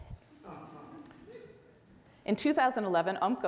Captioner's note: audience laughs